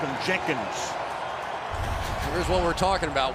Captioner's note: cheering